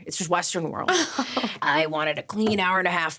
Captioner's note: laughing